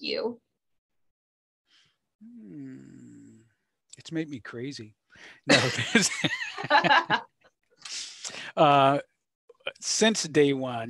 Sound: laughs; laughs

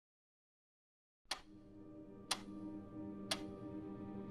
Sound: clock ticking

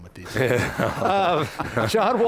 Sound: laughing

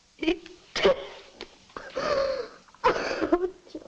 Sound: Martha crying

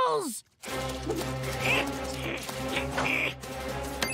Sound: grunting

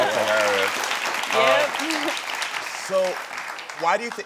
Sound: audience applauding

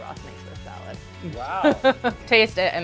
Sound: laughs

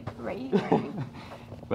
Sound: laughs

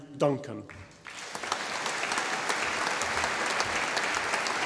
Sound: audience applauding

